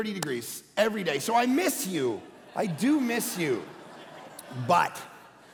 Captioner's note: congregation laughing